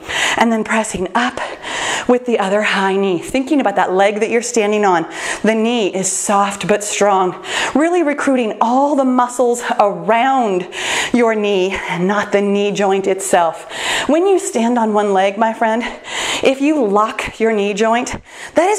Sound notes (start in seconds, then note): none